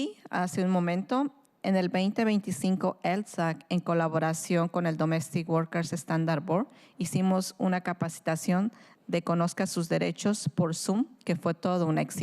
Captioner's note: speaking in spanish